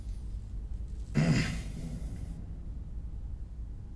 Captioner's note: grunts